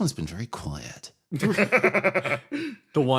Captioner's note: laughs